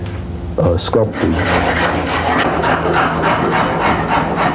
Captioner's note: wood scraping